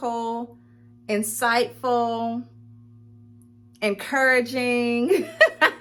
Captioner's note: laughing